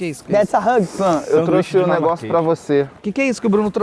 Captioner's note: muttering